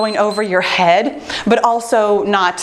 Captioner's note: timer beeps